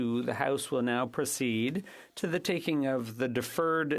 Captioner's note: speaking French